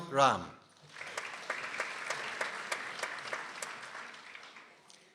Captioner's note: people applauding